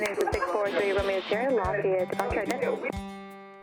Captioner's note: chattering on radio; upbeat acoustic music